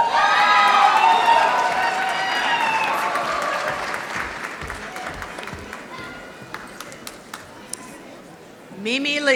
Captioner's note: applause